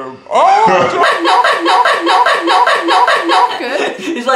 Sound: laugh

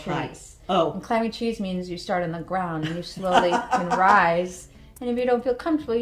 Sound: laughter

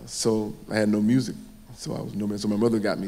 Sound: none

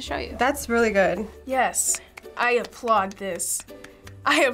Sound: clapping

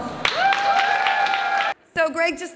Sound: applause

